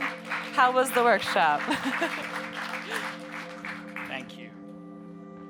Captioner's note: audience members applauding; laughs